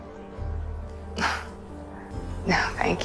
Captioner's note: Serena laughs; voiceover